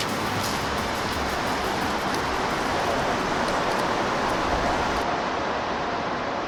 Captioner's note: road sounds in distance